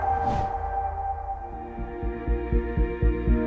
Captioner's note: logo swooshes; dreamy upbeat music